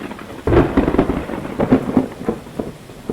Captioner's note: thunder